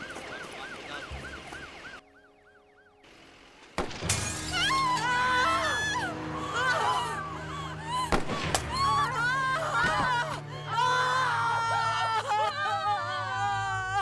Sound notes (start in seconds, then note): 3.9 glass shattering; 4.4 screaming